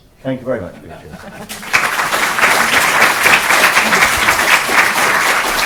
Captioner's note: audience applauding